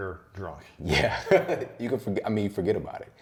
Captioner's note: laughs